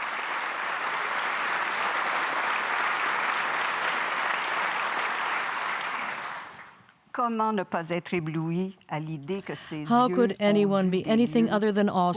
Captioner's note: applause